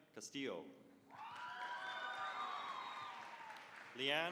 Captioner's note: cheering, applause